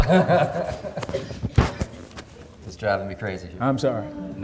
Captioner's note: laughing